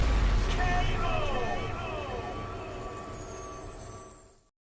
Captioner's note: dramatic drum bang; K.O. sound effect